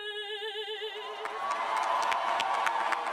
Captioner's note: cheers and applause